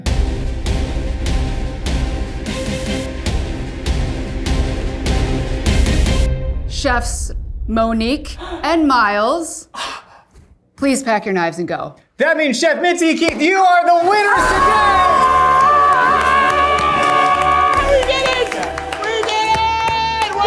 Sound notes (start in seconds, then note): 0.1 tense music building; 14.0 cheering; 14.4 angelic music